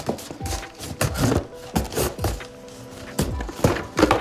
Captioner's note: objects clattering